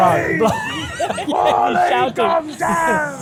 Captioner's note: laughs